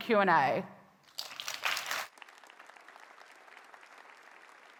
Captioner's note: attendees clapping